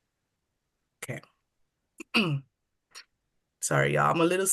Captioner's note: coughs